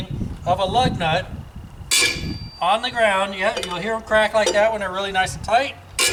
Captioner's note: metal grinding noise